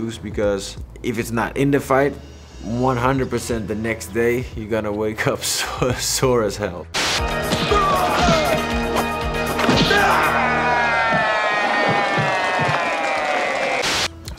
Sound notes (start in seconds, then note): 6.9 upbeat music; 7.6 man exclaims; 9.6 crowd cheers